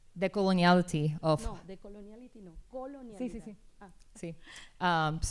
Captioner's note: speaking spanish